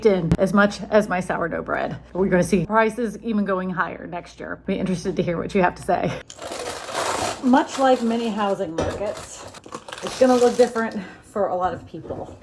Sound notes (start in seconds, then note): 6.3 paper rustling